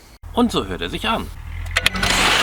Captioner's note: engine